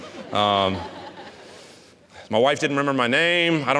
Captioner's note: audience laughing